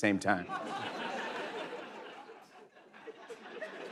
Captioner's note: laughter